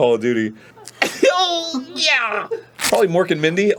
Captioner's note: gurlgles